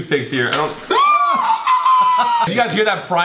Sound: screeching

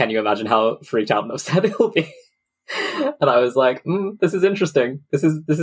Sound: laughs

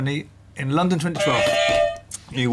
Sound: beep beep; clang

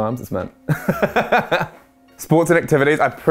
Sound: laughter

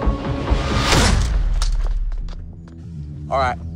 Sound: fist thudding

